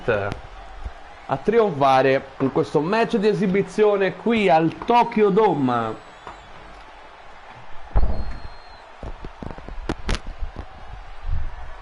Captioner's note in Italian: Applauso